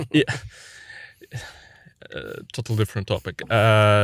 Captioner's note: laughs